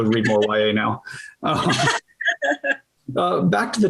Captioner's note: laughter